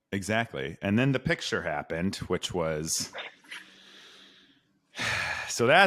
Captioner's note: sighs